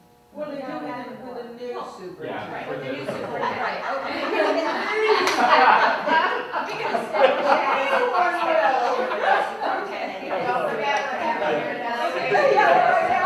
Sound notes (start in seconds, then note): 3.0 laughter